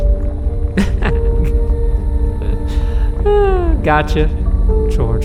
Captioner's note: laughing